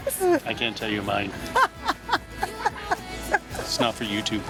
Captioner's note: laughs